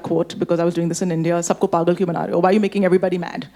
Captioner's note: speaking Hindi